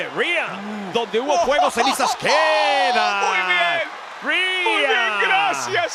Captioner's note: laugh